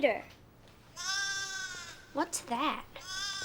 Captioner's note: lamb bleats